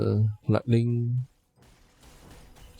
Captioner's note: lightning